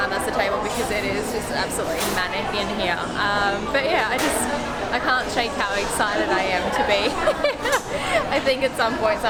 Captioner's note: laughs